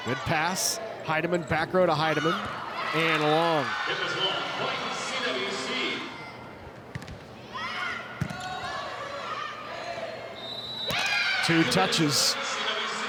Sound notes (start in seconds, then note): 6.9 ball thumping; 8.5 players shouting indistinctly; 10.4 whistle blowing